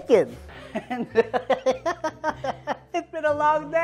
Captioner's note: laughs